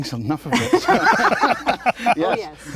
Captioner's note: laughter